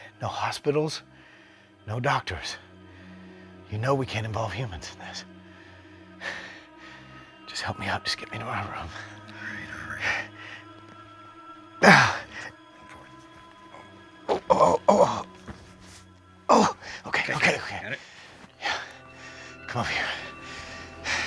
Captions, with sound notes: No hospitals, no doctors. You know we can't involve humans in this. Just help me up, just get me to my room. (grunting) Oh oh oh, okay, okay. - Got it? - Yeah. Come on.